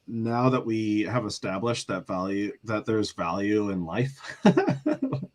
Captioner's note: laughter